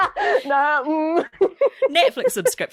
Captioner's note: laughs